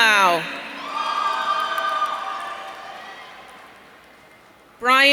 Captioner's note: audience cheering